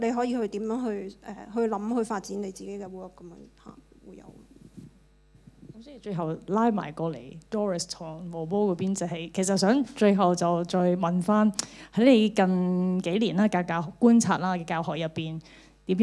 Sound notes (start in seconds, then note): 6.9 Cantonese